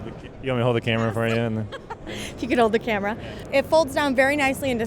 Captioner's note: chuckles